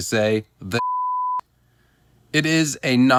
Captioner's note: beep